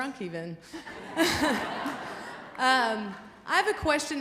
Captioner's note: laughing